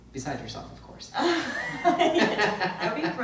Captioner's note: both laugh